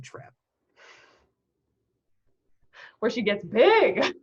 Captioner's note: laughing